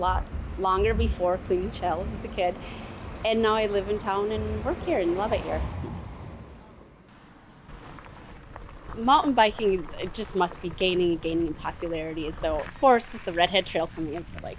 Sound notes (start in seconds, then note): 6.0 air whooshing